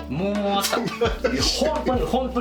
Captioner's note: laughs